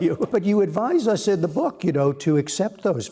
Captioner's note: laughter